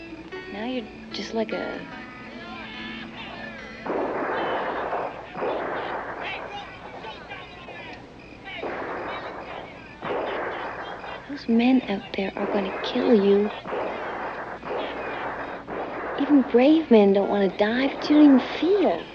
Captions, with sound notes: Now you're just like a... [outlaws yelling cheerfully] [gunshots echoing] Those men out there are gonna kill you. Even brave men don't wanna die but you don't even feel.